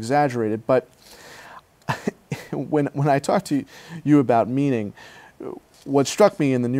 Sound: laughs

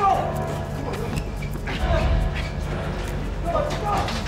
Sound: scuffling

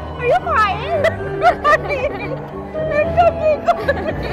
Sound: laughing

